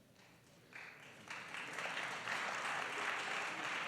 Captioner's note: applause